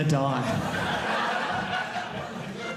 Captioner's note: audience laughing